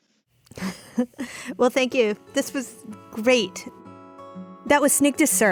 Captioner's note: laughing; low tempo music